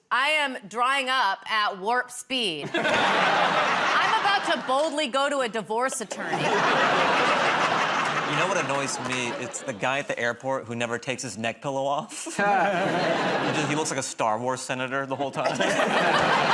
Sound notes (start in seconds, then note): 5.8 laughter